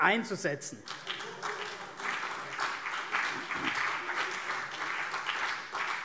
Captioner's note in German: Beifall CDU und BÜNDNIS 90/DIE GRÜNEN